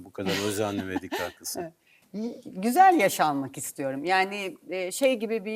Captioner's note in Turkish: kahkaha